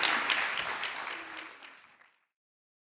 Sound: applause

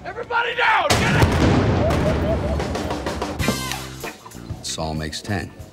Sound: cars exploding

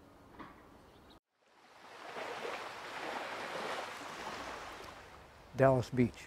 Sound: waves crashing

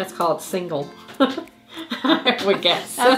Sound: both laughing

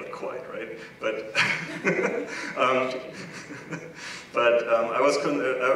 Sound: laugh

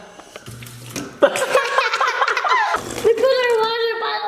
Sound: fountain buzzes; laugh

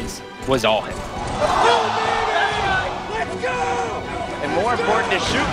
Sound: players shouting

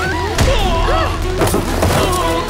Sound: screams

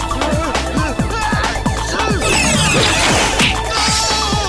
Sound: sneezes

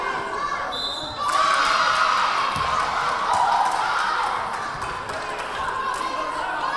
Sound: whistle blaring; crowd cheering

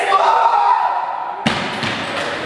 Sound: screams; loud thud

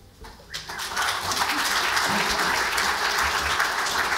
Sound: audience applauds

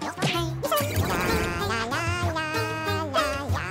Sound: pigeon humming

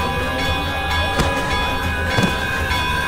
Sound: thudding

